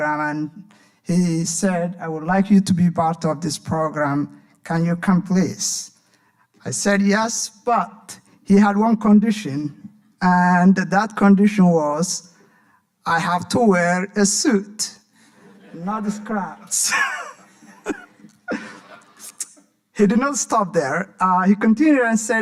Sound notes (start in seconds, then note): 15.3 audience laughing; 16.5 laughing; 19.1 smacks lips